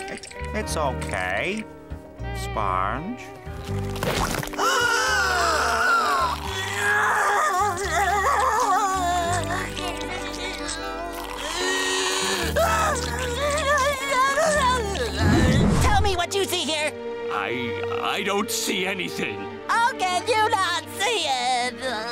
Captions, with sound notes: It's okay. Sponge? [inhaling] [crying] [crying] Tell me what you see here. I- I don't see anything. How can you not see it? [crying]